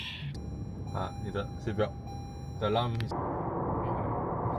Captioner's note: alarm warning